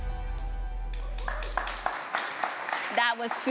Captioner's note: applause